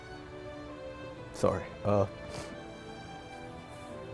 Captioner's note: gentle music; sniffles; gentle music